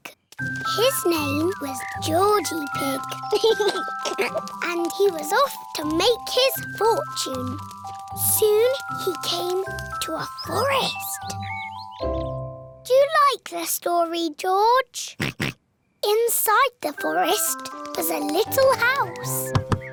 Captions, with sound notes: His name was Georgie Pig. (GIGGLES) And he was off to make his fortune. Soon he came to a forest. -Do you like this story, George? -(OINKS) Inside the forest was a little house.